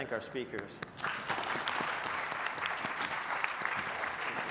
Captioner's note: applause